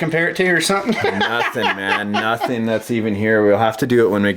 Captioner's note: voiceover